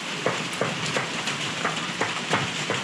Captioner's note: raining*. *Going inside